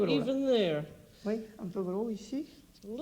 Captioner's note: speaking French